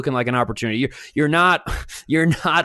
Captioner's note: scoffs